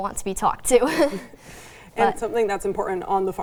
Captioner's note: chuckles